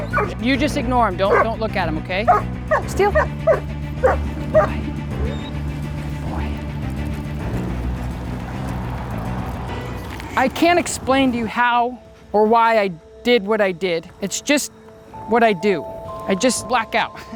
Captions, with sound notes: You just ignore him. Don't, don't look at him. Okay, Steel. [Barking and whining] I can't explain to you how or why I did what I did. It's just what I do. I just luck out.